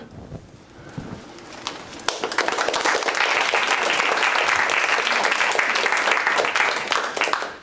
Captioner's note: applause